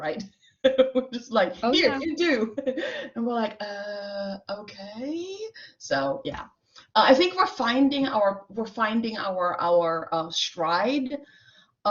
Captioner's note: laughter